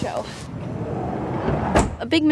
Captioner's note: door slamming